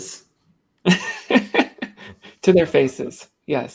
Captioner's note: laughs